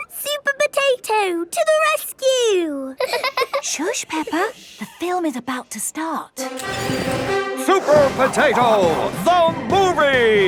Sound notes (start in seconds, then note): 3.0 both laughing; 6.4 heroic music